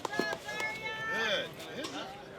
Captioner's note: hands clapping; simultaneous crowd chatter